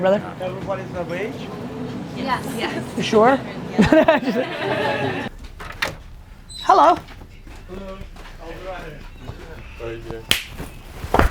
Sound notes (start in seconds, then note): 3.7 he laughs; 10.2 hands clapping